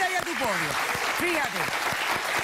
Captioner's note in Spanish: Aplausos